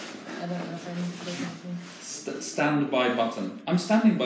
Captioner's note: student mumbling